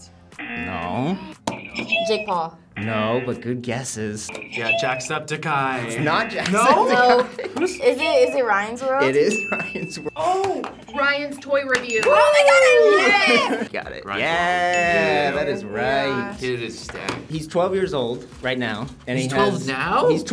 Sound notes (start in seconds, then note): 1.6 buzzer rings; 1.7 buzzer; 4.3 buzzer rings; 9.3 buzzer rings